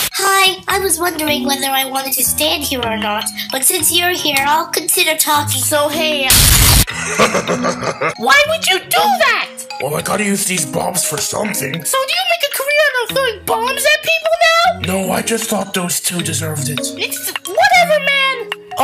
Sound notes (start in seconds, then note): 16.9 stuttering